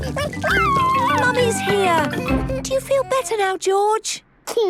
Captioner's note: George crying